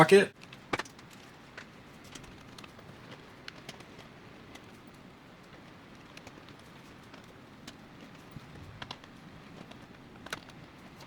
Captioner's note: silence